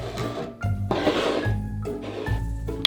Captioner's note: cup sliding